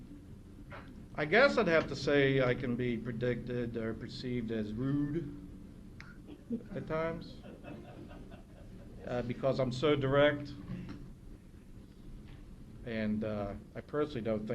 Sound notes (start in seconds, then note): 7.3 laughter